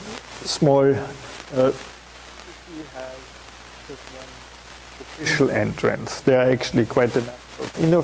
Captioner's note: audio static